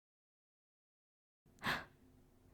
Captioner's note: gasp